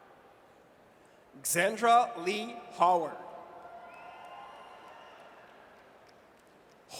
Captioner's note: audience cheers